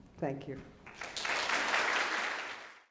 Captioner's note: clapping